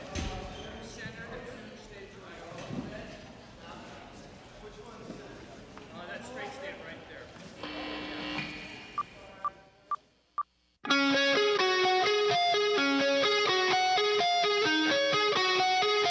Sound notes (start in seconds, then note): 7.6 electric buzz; 10.8 rock guitar